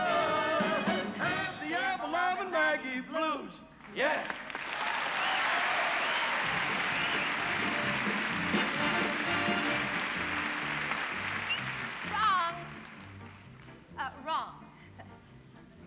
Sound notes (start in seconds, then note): 4.0 cheering and applause; 11.2 whistles